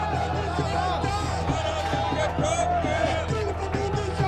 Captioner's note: crowd chanting in Punjabi